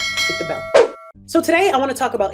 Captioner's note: bell Sound